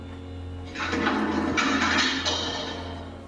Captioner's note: clattering on playback